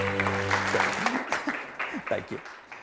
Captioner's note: attendees applause; laughing